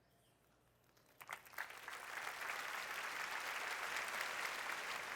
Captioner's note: applause